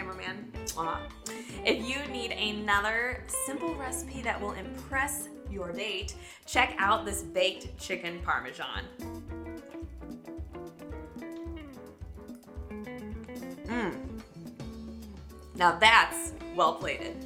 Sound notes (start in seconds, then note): 13.6 grunting